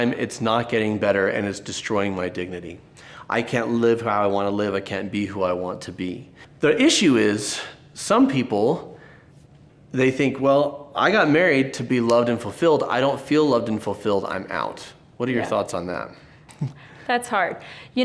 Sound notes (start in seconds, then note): 16.5 laughing